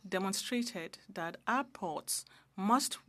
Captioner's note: speaking French